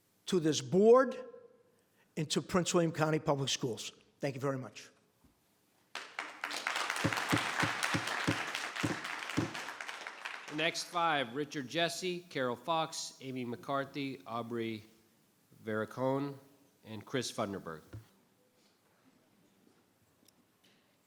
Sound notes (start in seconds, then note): 5.9 applause; 7.4 gavel bangs